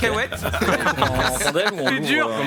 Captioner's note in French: rires